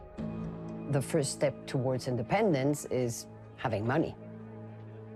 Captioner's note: in English